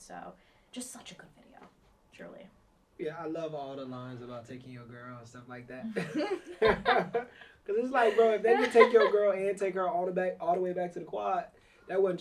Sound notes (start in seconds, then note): 8.0 laughs